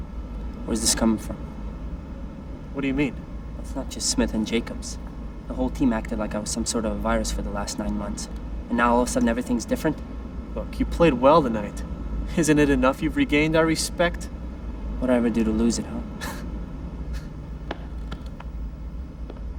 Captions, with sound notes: WHERE IS THIS COMING FROM? WHAT DO YOU MEAN? IT'S NOT JUST SMITHE AND JACOBS. THE WHOLE TEAM ACTED LIKE I WAS SOME SORT OF A VIRUS FOR THE LAST NINE MONTHS, AND NOW ALL OF A SUDDEN EVERYTHING'S DIFFERENT? LOOK, YOU PLAYED WELL TONIGHT. ISN'T IT ENOUGH YOU'VE REGAINED OUR RESPECT? WHAT DID I EVER DO TO LOSE IT, HUH? ( chuckles )